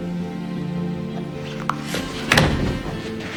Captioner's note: June's knees crack